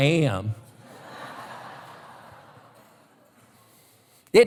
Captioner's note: laughter